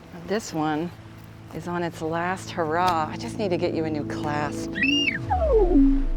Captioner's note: electronic beeps on wristwatch